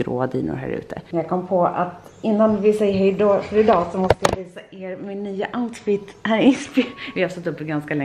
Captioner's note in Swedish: skratt